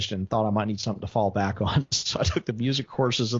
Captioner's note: laughs